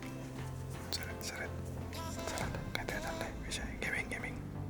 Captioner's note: whispers